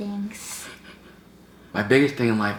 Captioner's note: giggles